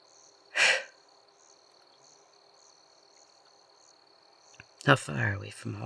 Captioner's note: sigh